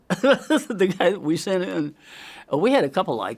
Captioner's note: laughs